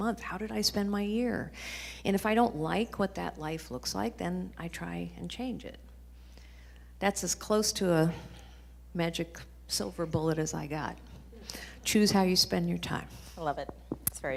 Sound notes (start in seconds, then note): none